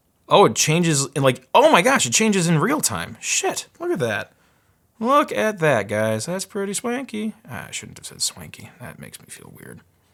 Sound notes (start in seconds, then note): none